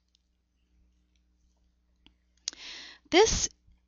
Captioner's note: pause